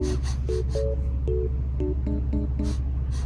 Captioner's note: sniff sniff